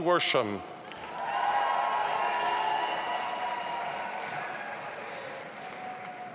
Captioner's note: audience applauding and cheering